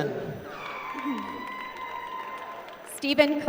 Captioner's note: applause